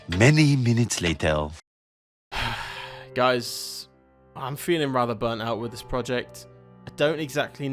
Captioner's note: sigh